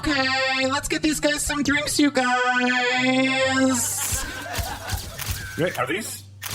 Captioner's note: VFX: Camera shutters